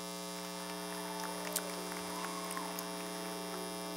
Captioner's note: clapping